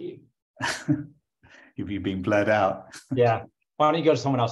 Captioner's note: laughs